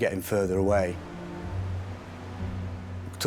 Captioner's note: water whooshing; gentle music